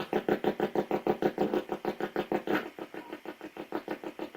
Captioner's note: ghost box buzzing